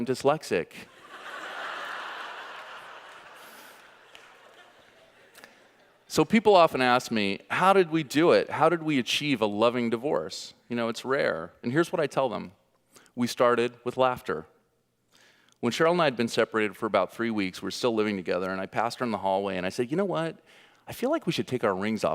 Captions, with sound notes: Because it means you had a kid with your sister. And its probably why I'm dyslexic. (audience laughing) So people often ask me, how did we do it? How did we achieve a loving divorce? Its rare and here's what I tell them. We started with laughter. When Sheryl and I had been separated for about three weeks